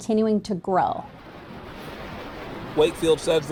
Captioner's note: car whooshing